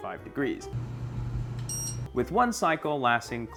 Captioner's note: beep